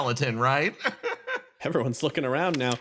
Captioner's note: laugh